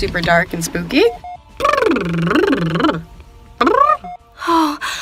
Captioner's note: pffffblblblb